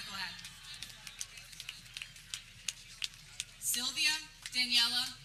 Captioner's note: people cheering